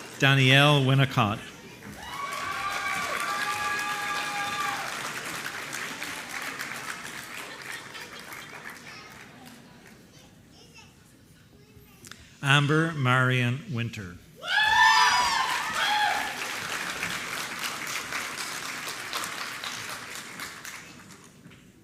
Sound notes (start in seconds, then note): 1.9 applause; 15.2 applause